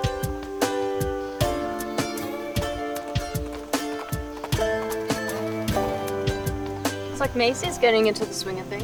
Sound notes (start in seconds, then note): 1.9 hooves clopping